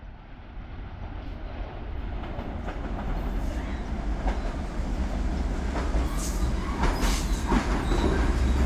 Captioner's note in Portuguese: barrulho de trem chegando